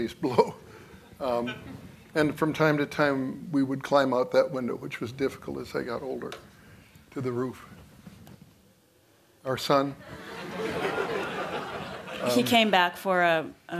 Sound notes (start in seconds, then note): 10.0 laughter